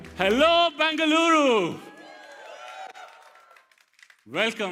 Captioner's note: crowd cheering